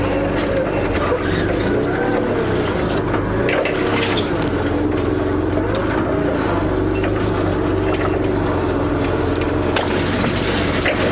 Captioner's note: sound of a forklift engine